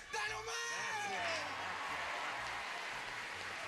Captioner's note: applause